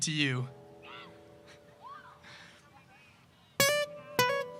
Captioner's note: audience shouts